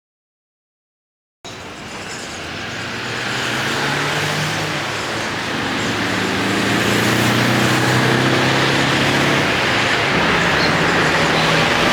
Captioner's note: traffic noise